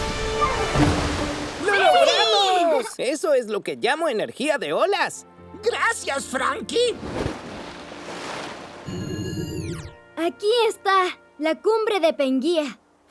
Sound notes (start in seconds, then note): 0.0 exciting music; 6.8 water splashing